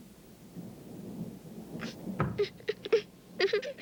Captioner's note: sobbing